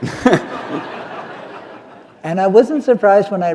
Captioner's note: laughter